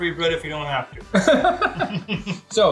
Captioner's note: laughs